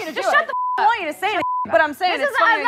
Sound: beep

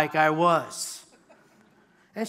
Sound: laughter

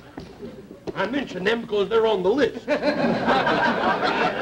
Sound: audience laughter

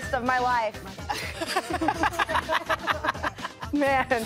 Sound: laughing

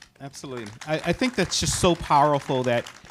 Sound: audience applauding

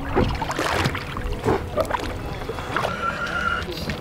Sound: male Voice; water gurgles

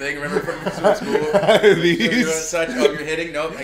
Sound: laugh

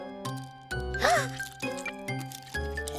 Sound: gasping

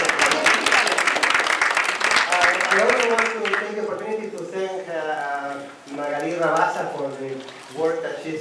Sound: applause

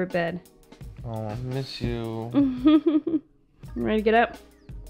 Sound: laughs

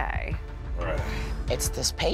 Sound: grunts

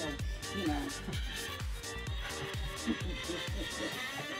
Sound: laughs

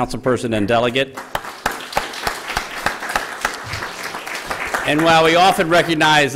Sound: applause

